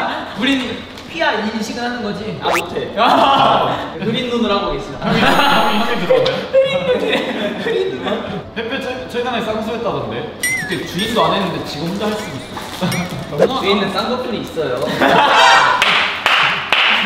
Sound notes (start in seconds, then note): 10.3 murmur